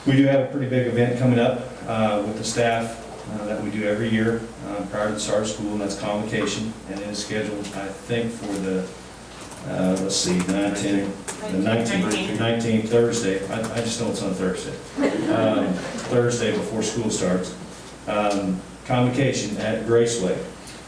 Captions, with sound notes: We do have a pretty big event coming up with the staff that we do every year prior to the start of school and that's convocation and is scheduled, I think for the, let's see, the 19th. - 19th. - The 19th, Thursday. I just know it's on Thursday. (laughing) Thursday before school starts. Convocation at Graceway.